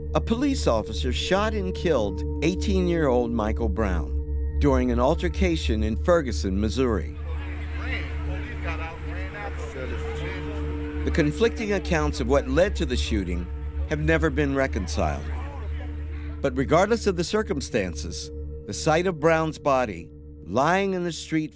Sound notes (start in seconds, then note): 7.2 people clamoring